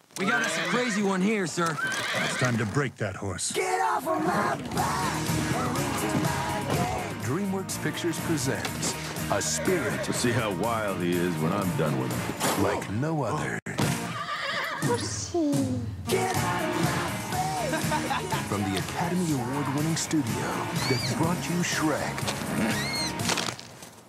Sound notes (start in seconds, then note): 9.4 chuckling by grabbing a towel; 14.0 the horse whinny